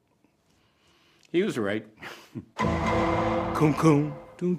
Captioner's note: double tone plays